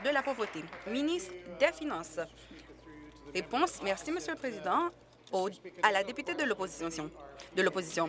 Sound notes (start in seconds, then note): 2.6 applause